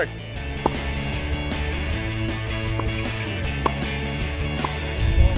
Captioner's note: tennis balls whacking